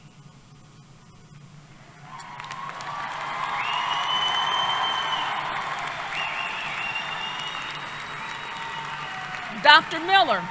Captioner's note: applause